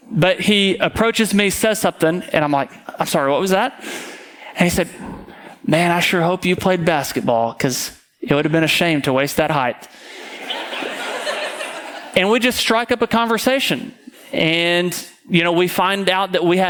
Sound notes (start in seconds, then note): 10.0 audience laughing